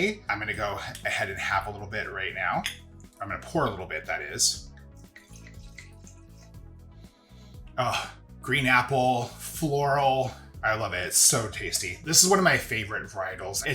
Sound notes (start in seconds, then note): 4.6 viognier trickling; 5.1 upbeat music